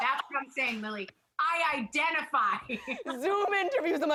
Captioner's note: laughs